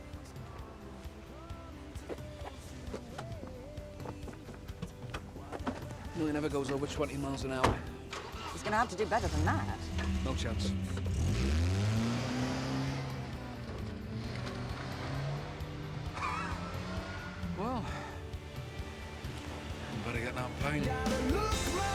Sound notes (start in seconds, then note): 11.8 engine rumbling